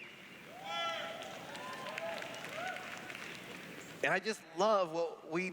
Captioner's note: cheers